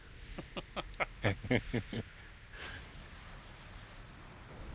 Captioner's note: laughs